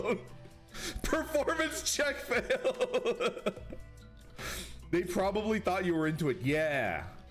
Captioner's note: laughs